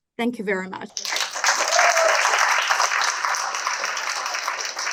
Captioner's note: cheering, applause